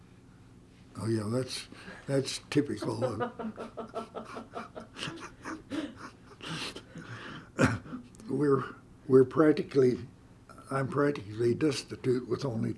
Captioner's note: laughter